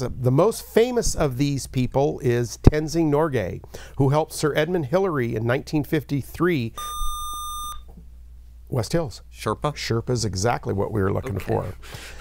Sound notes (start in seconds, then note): 6.8 buzzer